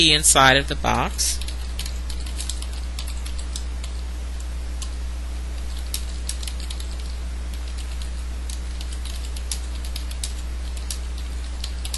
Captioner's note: typing